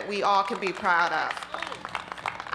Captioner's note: applause